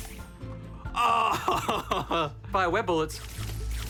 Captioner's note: chuckles